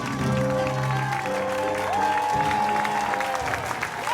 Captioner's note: cheering